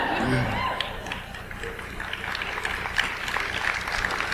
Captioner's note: audience applauds